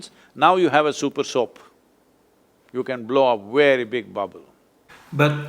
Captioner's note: laughs